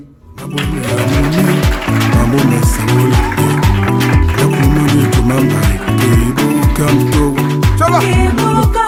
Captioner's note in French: applaudissements